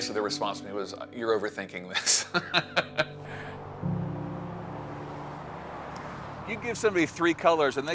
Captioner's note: laughs